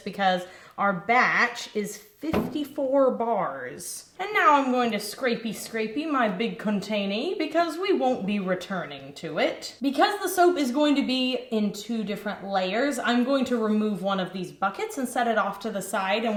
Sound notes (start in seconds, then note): none